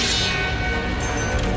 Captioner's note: metal scraping